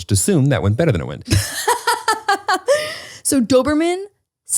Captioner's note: laughs